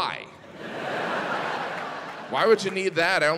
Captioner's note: audience laughing